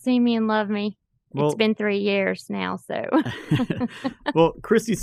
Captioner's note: laughs